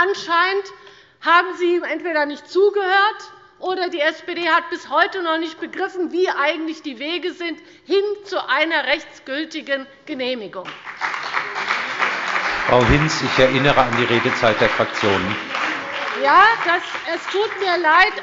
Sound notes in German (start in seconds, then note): 10.6 Beifall bei der CDU und dem BÜNDNIS 90/DIE GRÜNEN